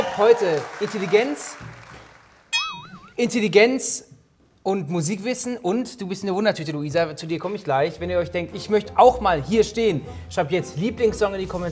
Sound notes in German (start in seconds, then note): 2.5 Boing